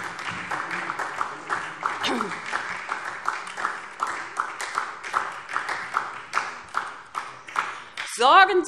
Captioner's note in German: Beifall SPD